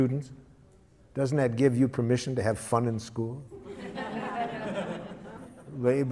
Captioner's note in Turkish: Gülüşmeler